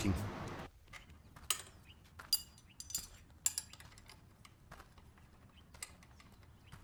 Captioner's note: tools clanking